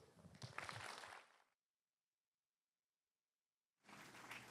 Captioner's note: applause